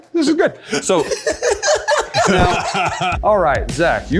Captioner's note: laughing